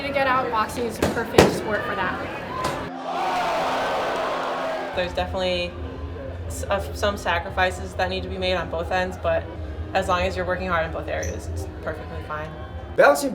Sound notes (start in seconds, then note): 3.1 crowd